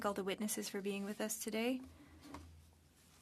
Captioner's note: speaking French